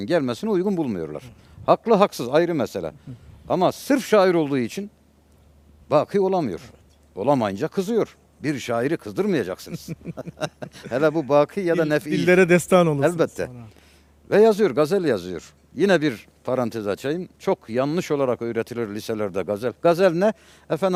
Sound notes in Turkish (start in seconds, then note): 9.6 kahkaha